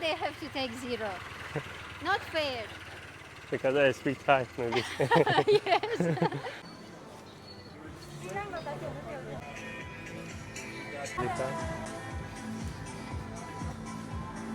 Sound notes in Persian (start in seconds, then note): 4.7 خنده